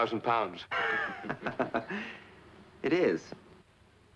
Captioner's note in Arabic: كلاهما يضحك